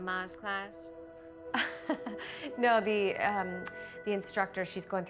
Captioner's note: laughs